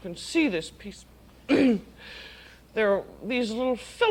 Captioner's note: clears throat